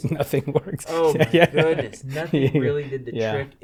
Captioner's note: laughter